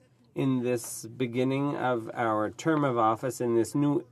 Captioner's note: speaking French